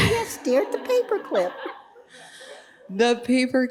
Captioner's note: audience laughing